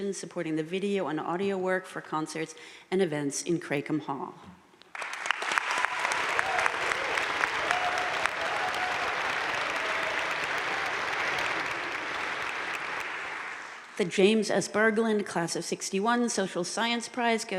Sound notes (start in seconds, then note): 4.9 audience cheering and applauding